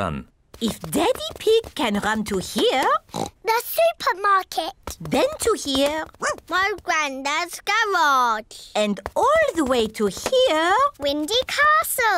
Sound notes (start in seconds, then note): 3.0 oinks; 5.9 barks